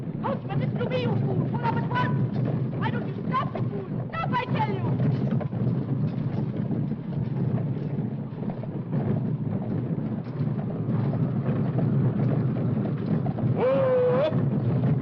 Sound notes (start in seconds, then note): 5.1 hooves pounding; 5.1 wind blowing